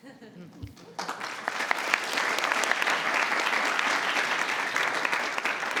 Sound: everyone applauding

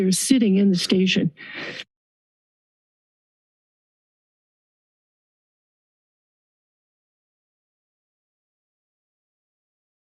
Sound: silence

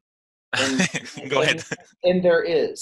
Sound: laughs

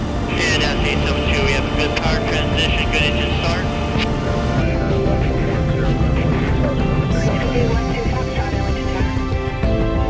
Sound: radio chatter

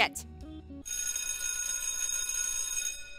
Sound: school bell rings

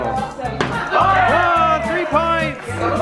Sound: group cheers

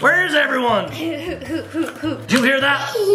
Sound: chuckles

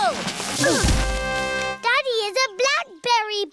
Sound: all grunt

